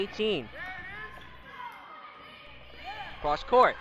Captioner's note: crowd talking and yelling